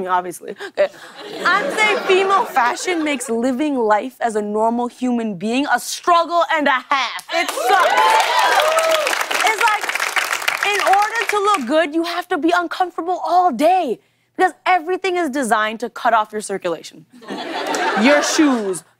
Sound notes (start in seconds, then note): 7.3 cheers and applause